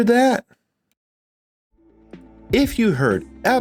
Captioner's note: more silence